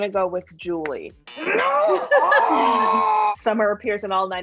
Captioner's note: buzzer buzzes